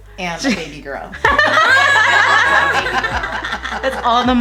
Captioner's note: laughs